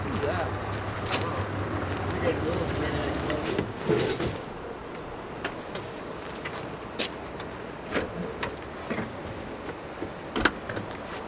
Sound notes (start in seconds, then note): 1.0 indistinct conversation; 6.3 trunk latches